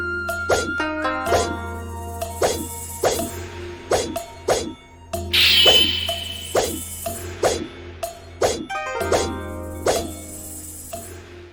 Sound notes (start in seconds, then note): 0.8 soft string music continues; 5.4 sword clanging